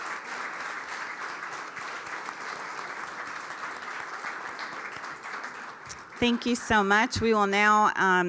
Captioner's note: applause